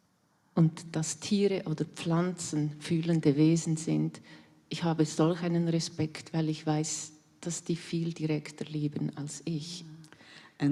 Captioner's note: in German